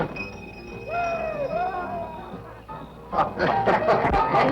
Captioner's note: record playing; cheering